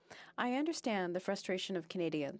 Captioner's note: speaking French